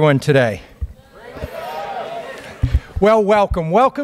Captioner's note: crowd responds